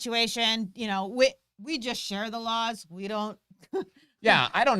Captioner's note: laughs